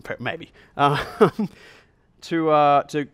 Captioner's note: chuckles